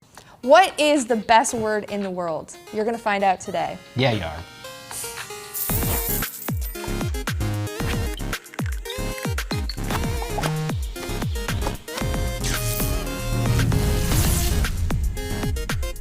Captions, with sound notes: - What is the best word in the world? You're gonna find out today. - Yeah, you are. (upbeat electronic music) (coins clinking) (bubbles popping) (electricity sparking)